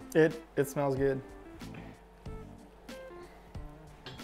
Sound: simmering

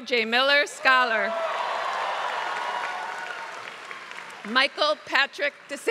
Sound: applause

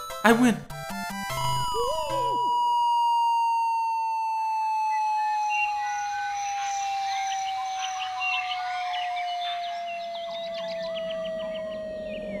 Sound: long whistling noise

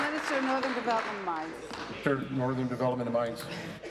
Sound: applause

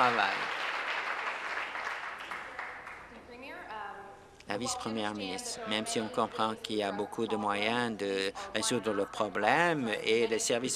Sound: applause

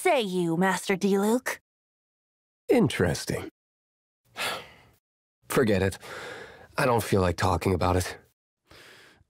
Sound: sigh

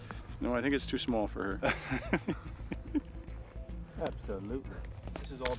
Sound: voiceover

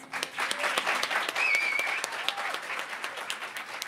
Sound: applause

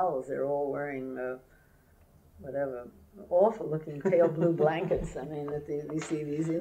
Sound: laughter

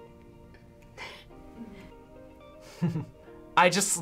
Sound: chuckles

